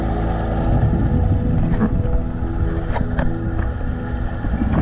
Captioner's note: underwater sounds